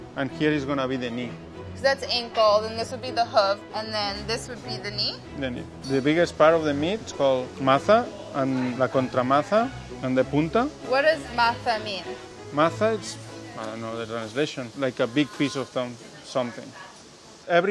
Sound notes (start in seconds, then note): 7.6 speaking in foreign language